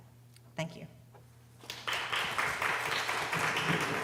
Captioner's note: applause